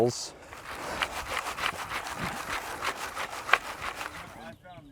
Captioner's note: dirt sifting